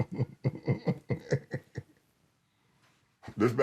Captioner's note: chuckles